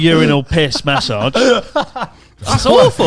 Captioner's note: laughing